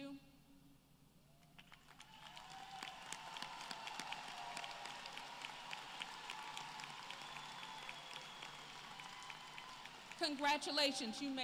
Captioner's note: applause